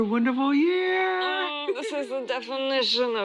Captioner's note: Tom laughs